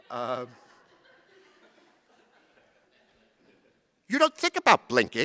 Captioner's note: chuckling